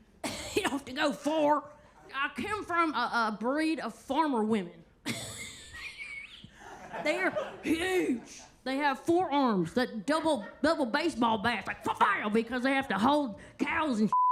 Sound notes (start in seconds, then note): 5.1 airy laughs; 7.8 attendees laughing